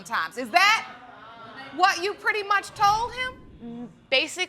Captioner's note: audience gasps